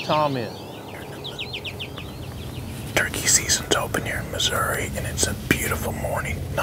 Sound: whispering

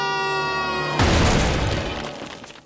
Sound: screaming; thudding

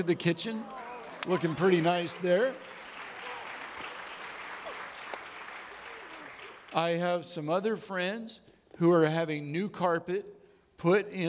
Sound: audience clapping

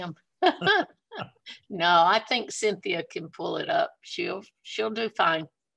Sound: laughs

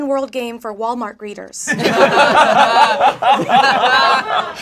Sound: laughing

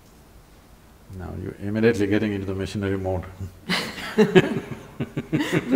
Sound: both laugh

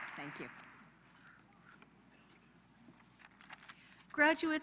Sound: applause

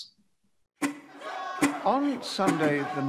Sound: crowd chants indistinctly

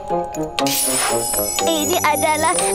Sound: tinkling

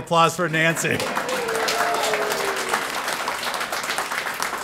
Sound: applause

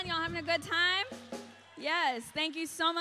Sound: audience cheering

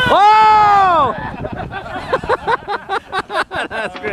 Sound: men cheering; laughter

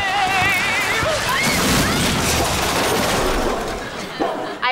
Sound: screaming, crashing

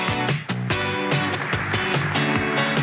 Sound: cheers

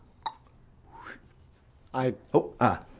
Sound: whooshing

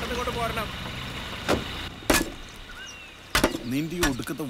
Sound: saw Sound

